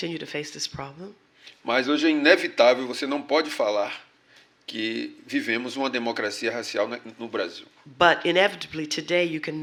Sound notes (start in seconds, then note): 4.8 speaking portuguese